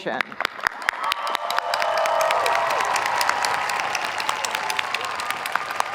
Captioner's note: audience applauding; audience cheering